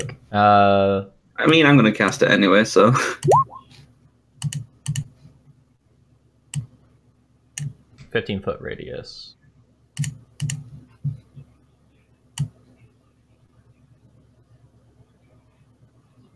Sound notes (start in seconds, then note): 12.4 clicking